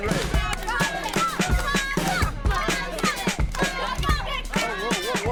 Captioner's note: kids cheering